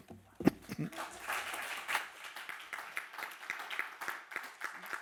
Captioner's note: audience applauding